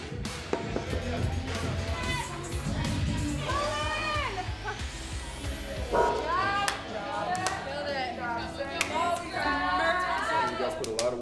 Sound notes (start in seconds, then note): 3.4 girl yells; 8.7 loud chatter